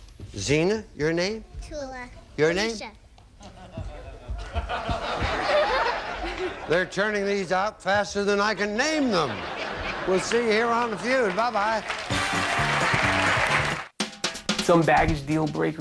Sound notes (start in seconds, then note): 3.4 audience laughing; 11.9 audience applauding